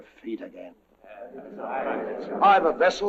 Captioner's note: indistinct chattering